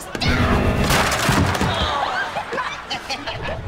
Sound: screaming; groaning; laughing

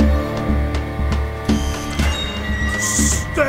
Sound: buzzer buzzing

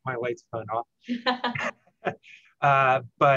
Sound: laughter

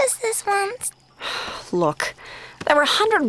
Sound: sighs

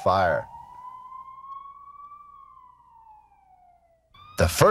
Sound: siren wailing

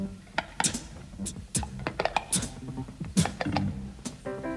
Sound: stammers

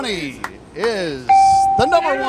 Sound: bell

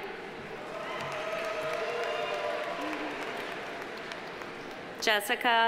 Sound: audience cheering; audience applauding

